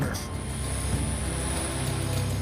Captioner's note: drone whirring